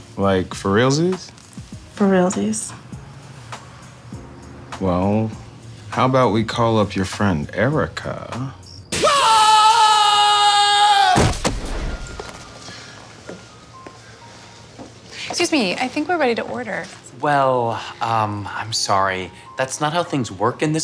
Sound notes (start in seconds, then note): 9.0 man screaming; 11.2 body thudding